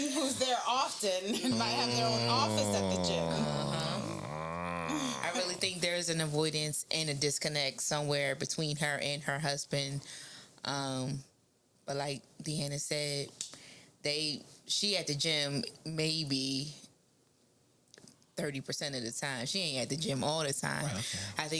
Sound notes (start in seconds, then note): 3.4 snoring